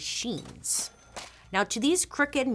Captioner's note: cash register dings